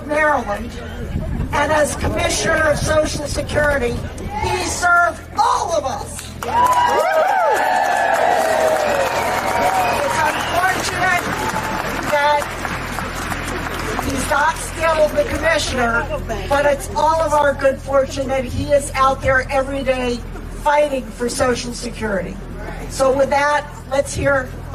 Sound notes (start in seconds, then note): 8.1 applause